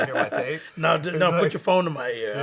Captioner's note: laughs